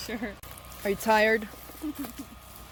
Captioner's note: chuckles